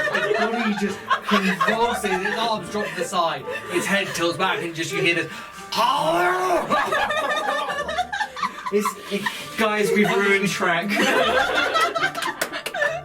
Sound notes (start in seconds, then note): 0.0 cracking noise that transforms into monster laughing noise; 6.9 throat laughing noise; 10.8 laughter